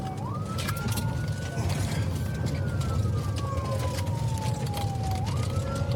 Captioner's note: siren wailing